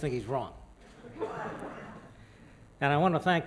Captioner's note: laughter